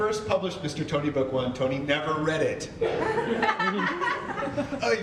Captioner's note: audience laughter